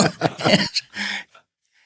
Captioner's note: laughing